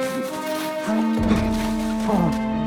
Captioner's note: horn blares; suspenseful music